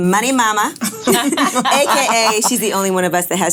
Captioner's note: laughing